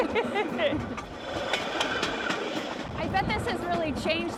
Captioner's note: laughter